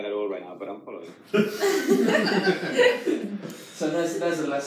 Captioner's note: audience laughs